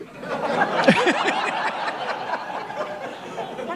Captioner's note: laughter